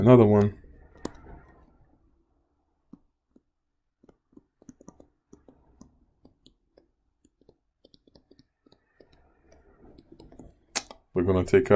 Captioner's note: typing Sounds